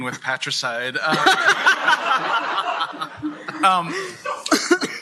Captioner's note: laughter